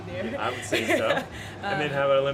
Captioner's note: laughter